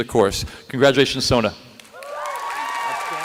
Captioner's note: applause